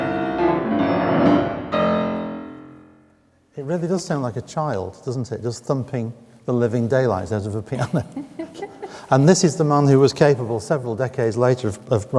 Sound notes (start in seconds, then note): 7.7 laughing